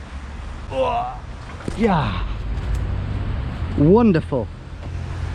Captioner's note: grunting